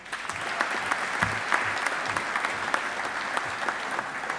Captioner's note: audience applauding